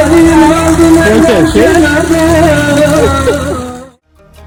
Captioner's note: speaking Italian